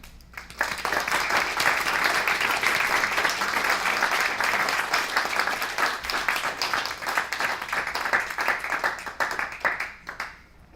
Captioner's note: applause